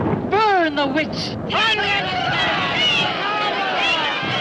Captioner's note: crowd erupts in jeers